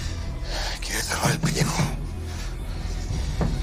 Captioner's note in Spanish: Toques en la puerta